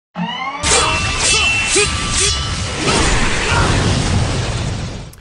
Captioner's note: fighting grunts and swords